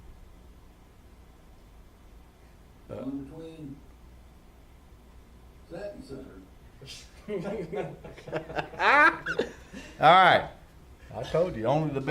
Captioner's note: laughter